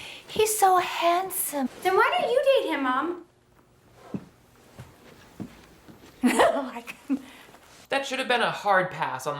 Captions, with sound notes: - He's so handsome. - Then why don't you date him, mom? - (chuckles) No, I couldn't. - That should have been a hard pass